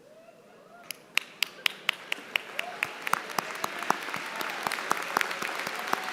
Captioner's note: applause